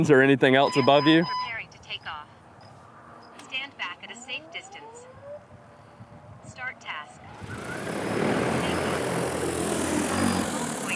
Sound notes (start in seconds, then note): 1.4 drone; 7.2 blades whirring